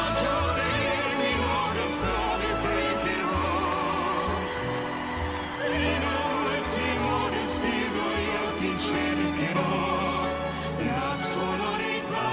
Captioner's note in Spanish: campana